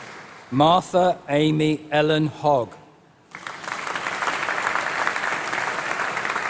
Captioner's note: applause